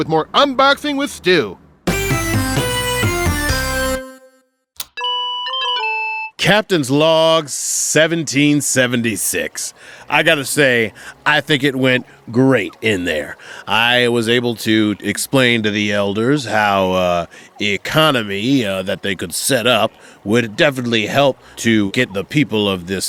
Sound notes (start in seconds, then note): 1.9 musical interlude; 4.9 high pitched electronic dinging